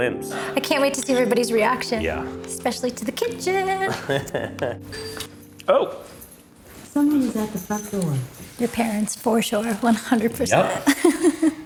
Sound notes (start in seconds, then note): 4.0 laughs; 4.9 bell chimes; 10.8 laughs